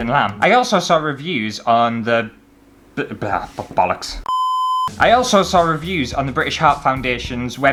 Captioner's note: beep